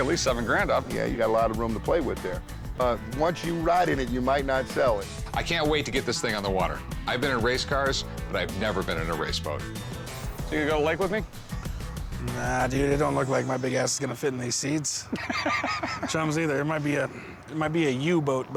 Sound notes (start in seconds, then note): 15.0 Rick laughs